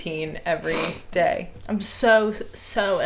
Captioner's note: sniffles